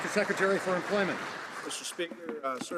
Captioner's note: some Applause